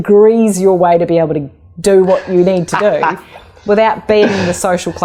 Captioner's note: laughing